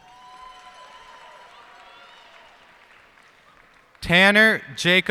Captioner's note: cheers and applause